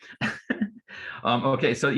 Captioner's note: laughing